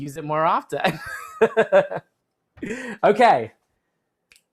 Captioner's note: laughter